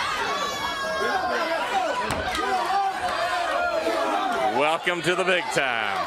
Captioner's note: crowd chatter